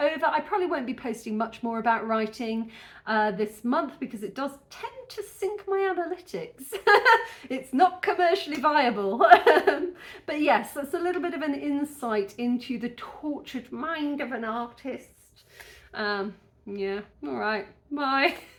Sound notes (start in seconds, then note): 9.2 laughing